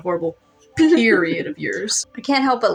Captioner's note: giggle